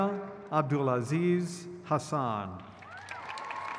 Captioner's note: crowd cheers